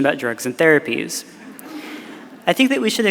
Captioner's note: audience laughing